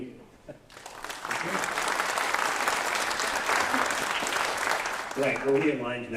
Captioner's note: applause